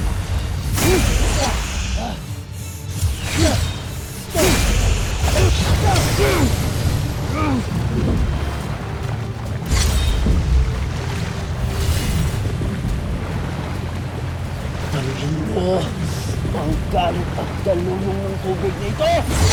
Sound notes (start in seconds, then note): 0.0 grunts, growls, & groans; 0.0 powerful blast & clanging; 0.0 powerful whoosh-crackle; 0.7 grunts & groans; 4.2 powerful blast & clanging; 4.2 grunts, growls, & groans; 7.5 powerful whoosh-crackle; 7.5 theme music playing